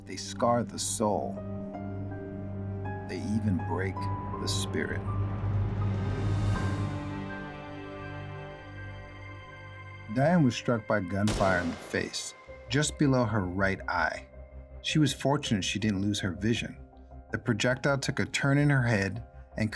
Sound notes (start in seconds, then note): 6.0 somber, dramatic music; 11.2 gun firing